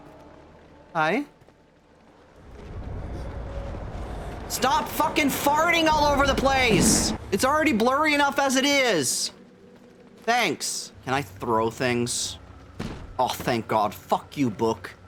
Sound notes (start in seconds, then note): 2.1 rumbling